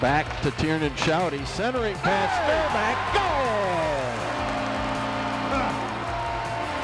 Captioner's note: crowd cheering